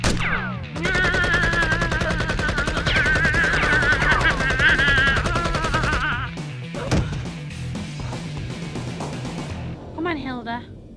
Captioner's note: automatic gunshots can be heard